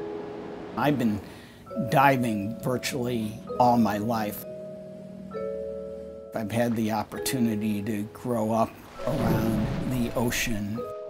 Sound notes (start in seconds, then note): 0.9 voiceover